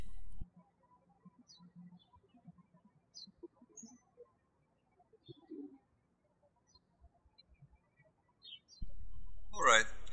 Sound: birds chirping

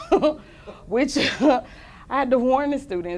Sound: laughter

